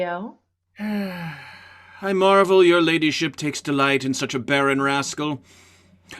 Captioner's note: sighs